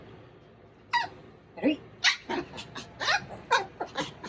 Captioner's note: Daisy growls